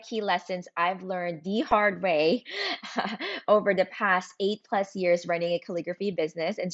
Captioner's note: laughs